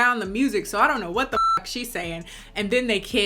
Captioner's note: beep